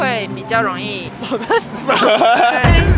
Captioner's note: a sudden burst of laughter